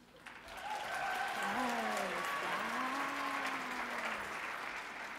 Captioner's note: audience clapping and cheering